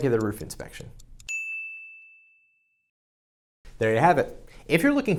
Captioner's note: bell dings